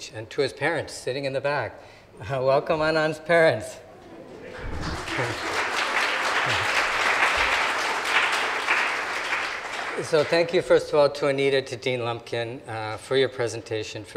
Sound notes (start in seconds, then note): 4.4 audience applauding